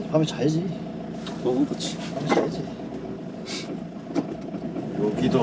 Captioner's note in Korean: 훌쩍